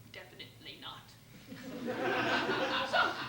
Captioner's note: laughter